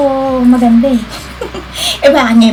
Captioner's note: giggling